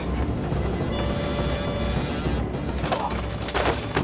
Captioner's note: beeping